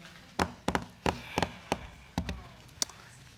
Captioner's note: drumming nails